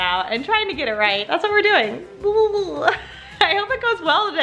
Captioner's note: laughs